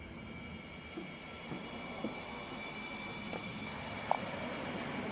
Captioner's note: footsteps plodding